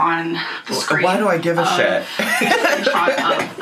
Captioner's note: laughing